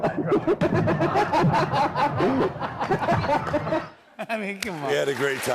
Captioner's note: laughter